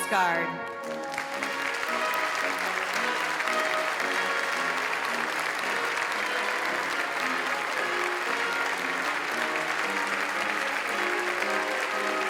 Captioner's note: applause